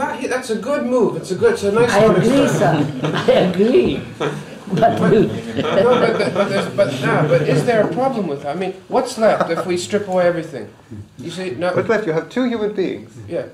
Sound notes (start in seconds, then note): 9.2 laughs; 11.5 laughter